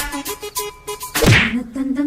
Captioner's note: boom